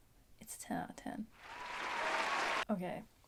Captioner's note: applause